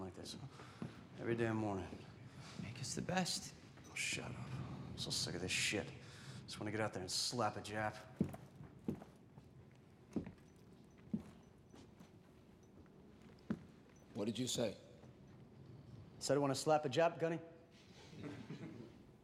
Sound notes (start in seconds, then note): 18.0 men chuckle